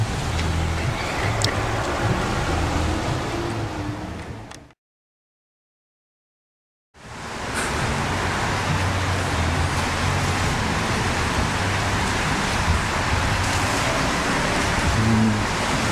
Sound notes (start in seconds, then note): 0.0 music & Traffic in Background; 10.1 traffic Noises